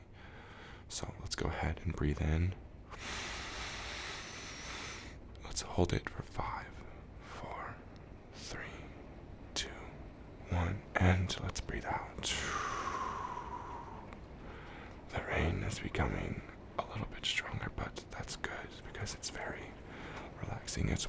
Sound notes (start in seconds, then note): 2.9 inhale deeply; 12.3 exhale deeply